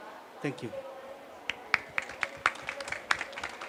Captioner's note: applause